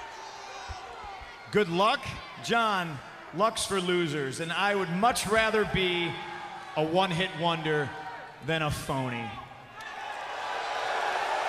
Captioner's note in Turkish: Alkışlar